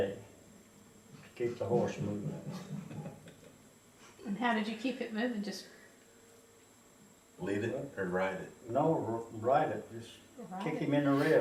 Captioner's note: laughter